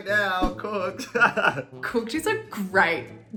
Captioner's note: laughing